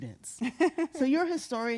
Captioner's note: laughing